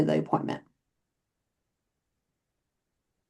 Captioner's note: silence